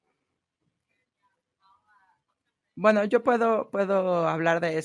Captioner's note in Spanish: a través de intérprete